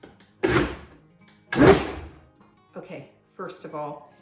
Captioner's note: blender pulses